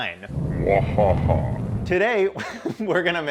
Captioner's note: laughs; evil laugh